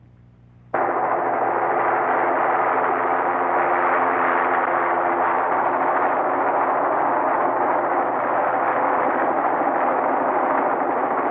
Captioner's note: helicopter whirring